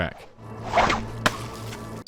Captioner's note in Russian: хлесь; шплонк